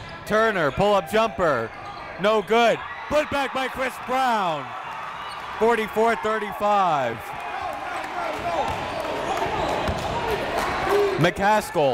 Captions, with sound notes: Turner, pull up jumper, no good. Put back by Chris Brown. (crowd cheering) 44-35. (crowd talking) (coaches yelling)